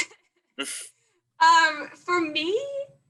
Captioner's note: chuckles